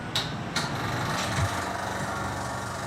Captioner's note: machinery whirs